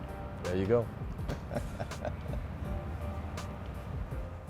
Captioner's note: laughs